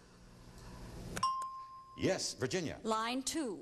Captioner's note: ding